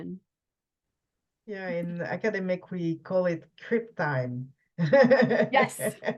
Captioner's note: laughs